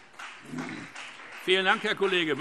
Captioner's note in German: Beifall Freie Demokraten